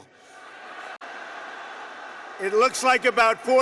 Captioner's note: laughter